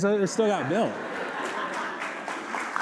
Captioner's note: laughter; applause